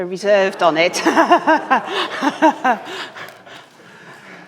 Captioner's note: all chuckling